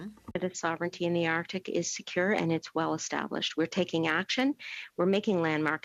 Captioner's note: speaking French